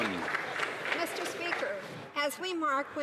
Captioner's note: some Applause